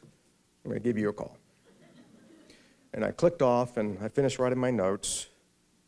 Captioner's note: subdued laughter